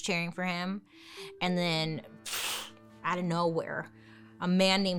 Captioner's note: blows raspberry